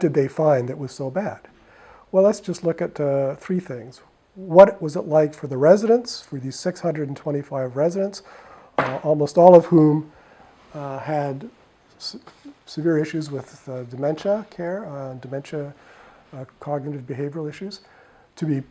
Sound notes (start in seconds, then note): 8.8 drops something